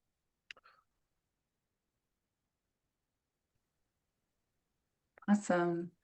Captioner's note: silence